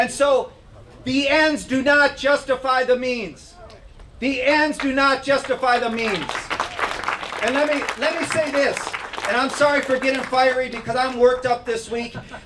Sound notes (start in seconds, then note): 8.7 clapping